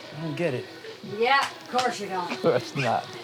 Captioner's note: chuckles